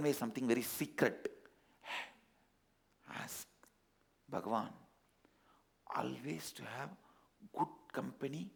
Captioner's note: in a whisper